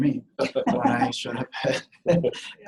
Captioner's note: laughing